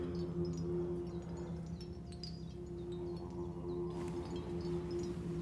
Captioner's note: wind chime jangling